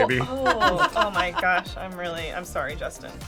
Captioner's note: laughs